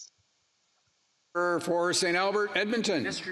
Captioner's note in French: voix de l'interprète